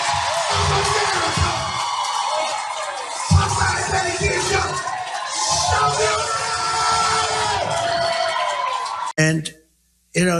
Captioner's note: applause